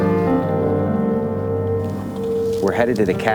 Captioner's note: boat scraping